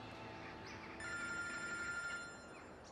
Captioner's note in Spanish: Suena el móvil